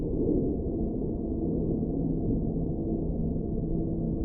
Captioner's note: none